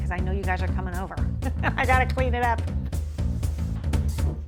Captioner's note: laughs